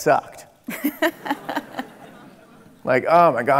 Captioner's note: laughing